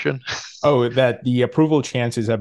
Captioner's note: laughs